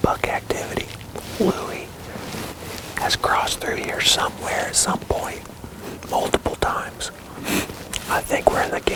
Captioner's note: whispering